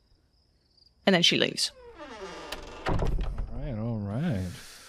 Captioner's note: door creaks as it closes